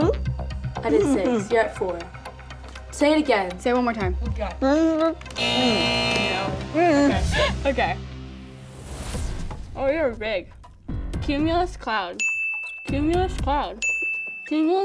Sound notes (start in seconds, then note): 5.3 buzzer sounds; 12.2 bell dings